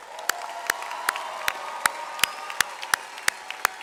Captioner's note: audience applause